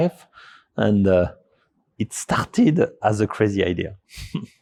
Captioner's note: chuckles